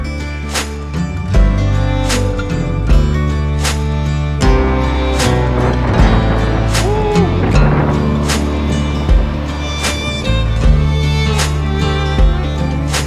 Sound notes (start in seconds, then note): 0.1 bright country music continues; 4.5 wind fluttering; 8.8 bright country music continues